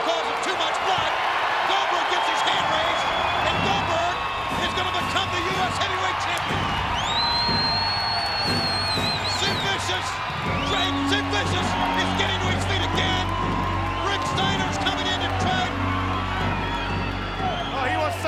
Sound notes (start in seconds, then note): 7.0 crowd cheering; 7.0 dramatic music